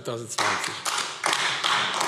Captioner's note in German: Beifall AfD